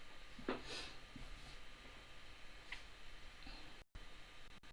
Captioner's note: sniffles